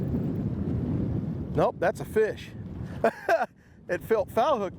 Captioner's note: laughs